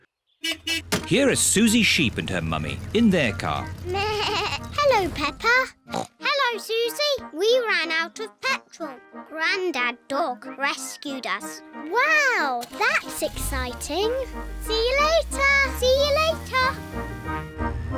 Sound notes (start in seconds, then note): 0.4 horn beeps; 4.4 bleats; 5.9 snorts